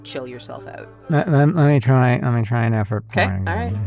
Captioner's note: grumbles